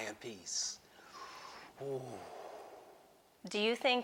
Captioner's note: sighs